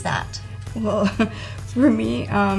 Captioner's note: laughing